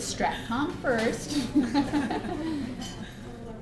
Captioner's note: laughing